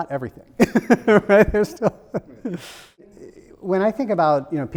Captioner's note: laughs